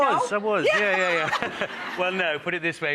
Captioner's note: all laughing